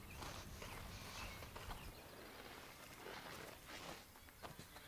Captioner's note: footsteps thumping